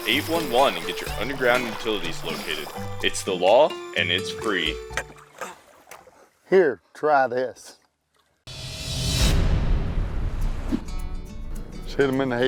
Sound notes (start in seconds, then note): 4.5 tired grunting